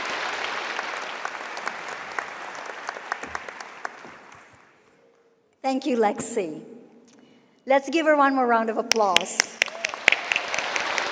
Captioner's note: cheering and applause